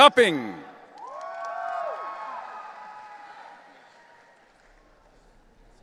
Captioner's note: audience cheering